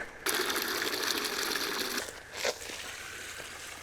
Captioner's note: water sloshing